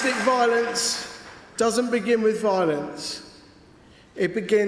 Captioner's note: cheering & Applause